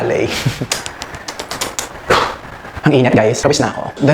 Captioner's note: sighs